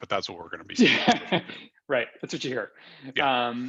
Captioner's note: laughs